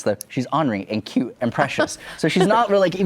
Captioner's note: laughs